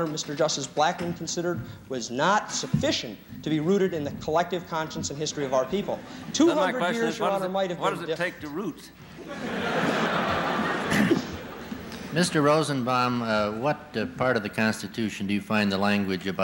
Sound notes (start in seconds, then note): 9.1 laughter